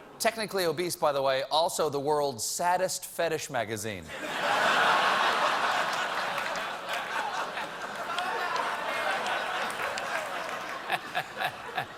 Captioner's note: laughter